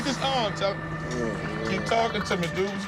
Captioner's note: moans